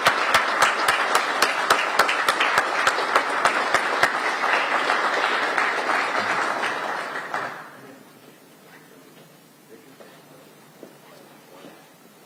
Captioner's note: applause